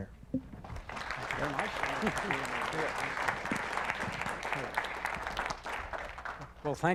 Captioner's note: applause